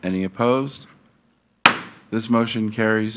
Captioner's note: gavel thuds